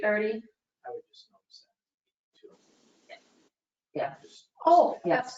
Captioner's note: speaking distantly